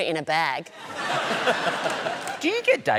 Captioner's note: laughter